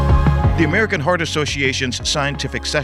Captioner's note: bright music; voiceover